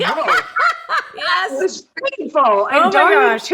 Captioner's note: laughs